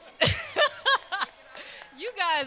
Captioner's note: applause